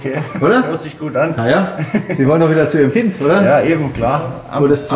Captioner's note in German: lacht